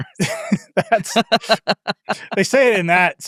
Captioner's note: laugh